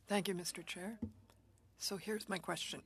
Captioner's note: speaking French